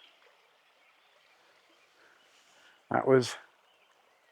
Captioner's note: birds chirping